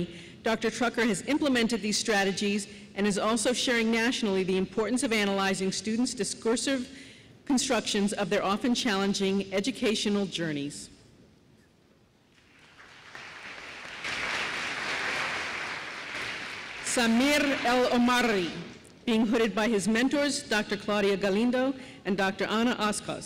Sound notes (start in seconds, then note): 12.3 applause